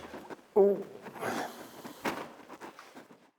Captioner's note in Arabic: الشخير